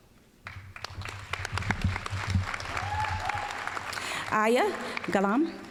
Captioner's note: applause